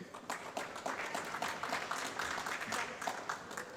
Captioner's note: applause